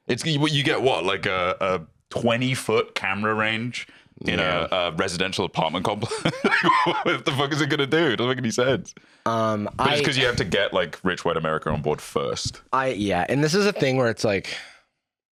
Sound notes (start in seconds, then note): 6.0 laughing